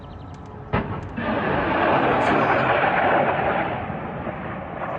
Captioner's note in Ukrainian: звук пролитаючої ракети